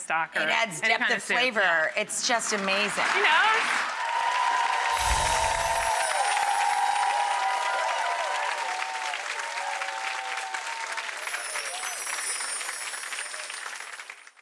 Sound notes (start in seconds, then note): 2.7 audience claps; 3.8 audience cheers; 4.9 chimes